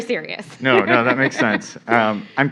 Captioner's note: laugh